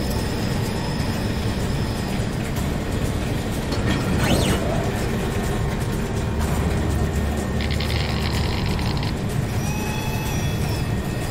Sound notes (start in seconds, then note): 7.7 sounds of laser welding guns